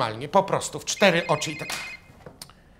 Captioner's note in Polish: dzwoni telefon